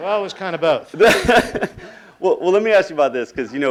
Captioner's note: laughing